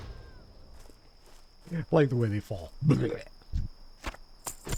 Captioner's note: crickets chirping; gags